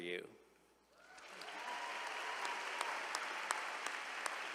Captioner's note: all applauding